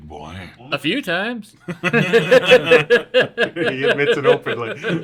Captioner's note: group laugh